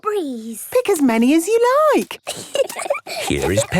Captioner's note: giggling